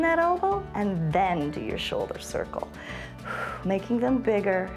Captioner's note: exhales